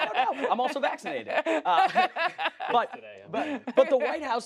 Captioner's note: laughter